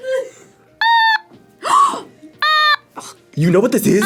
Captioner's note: otamatone beeps; gasps